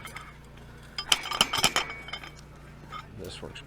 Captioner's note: metals clank